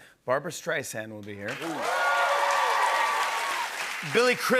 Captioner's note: cheers and applause